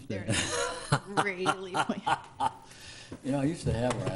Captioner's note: laughs